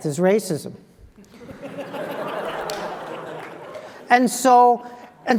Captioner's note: laugh